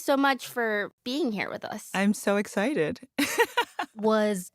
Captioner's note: laughs